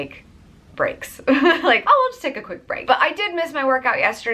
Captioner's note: laughs